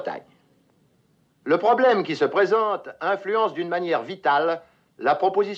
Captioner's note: speaking French; continues in French